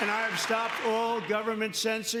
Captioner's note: cheers and applause